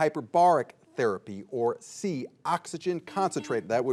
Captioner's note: buzzer beeping